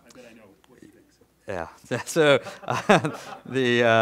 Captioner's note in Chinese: 笑声